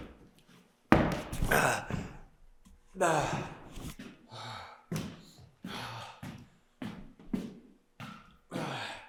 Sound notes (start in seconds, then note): 2.9 Jacob groaning; 4.2 Jacob panting